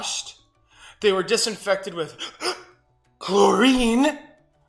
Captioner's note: gasps